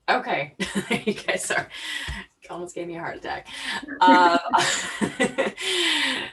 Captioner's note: laughs; laughs